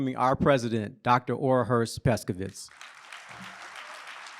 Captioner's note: applause